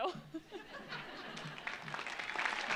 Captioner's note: laughs; audience laughs; audience applauds